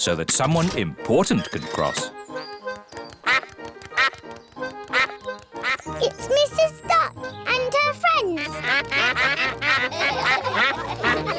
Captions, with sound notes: so that someone important could cross. -(QUACKS) -It's Mrs. Duck and her friends. -(ALL QUACK) -(LAUGHTER)